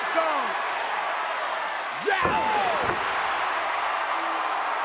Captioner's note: crowd cheering